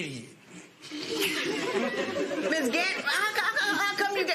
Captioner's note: laughter